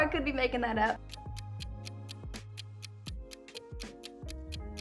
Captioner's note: clock ticks